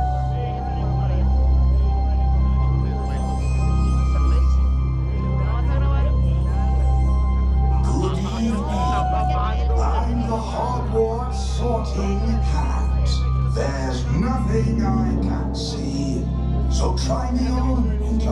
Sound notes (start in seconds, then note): 5.7 people chattering